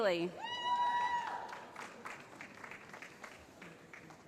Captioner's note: cheering